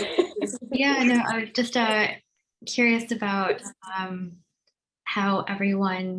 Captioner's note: laughter